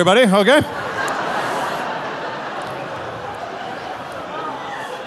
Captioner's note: audience laughing